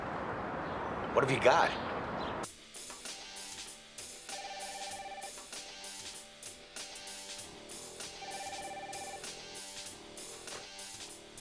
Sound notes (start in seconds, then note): 4.3 phone ringing; 5.8 upbeat music; 8.1 phone ringing